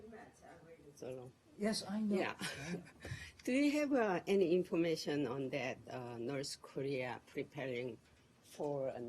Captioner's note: laughter